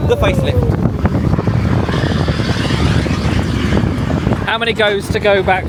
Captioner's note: mine train swooshes